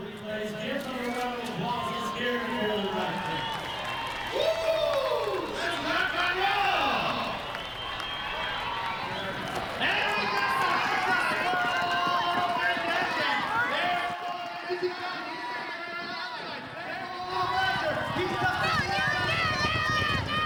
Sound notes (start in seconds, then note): 2.9 cheering and applauding; 6.6 cheering and applauding; 9.6 announcer calling race